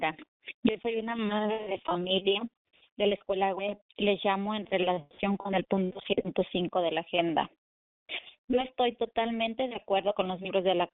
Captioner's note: speaking spanish